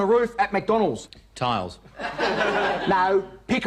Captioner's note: audience laughing